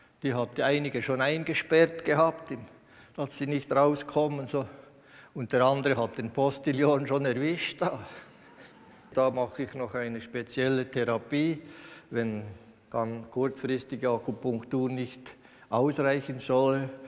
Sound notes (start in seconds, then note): 8.5 laughs